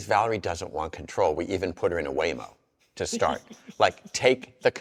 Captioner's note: laughs